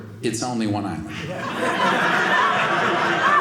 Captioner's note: audience laughing